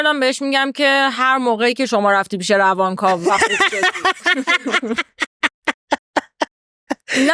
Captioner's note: laughs